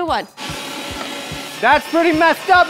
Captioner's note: machinery grinding